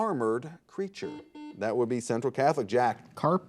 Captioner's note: buzzer beeping